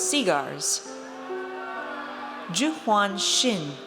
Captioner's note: audience cheers